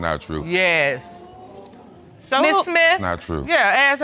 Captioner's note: audience exclaiming